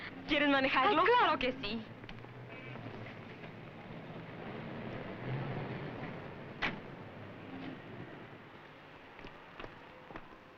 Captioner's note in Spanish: motores de carros